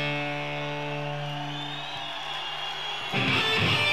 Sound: audience cheering; soulful slow rock music continues

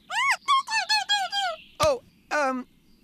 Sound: frightened Toot

